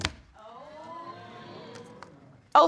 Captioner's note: audience oohing